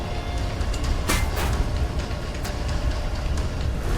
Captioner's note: loud clattering